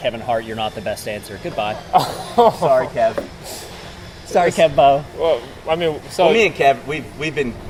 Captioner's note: laughing